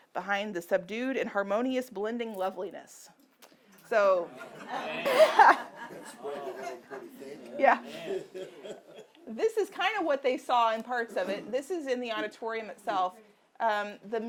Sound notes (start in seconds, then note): 4.8 laughing; 6.0 audience laughing